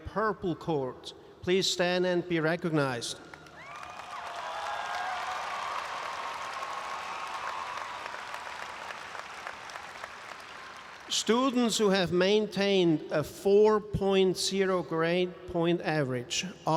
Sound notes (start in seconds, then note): 3.3 audience applauds and cheers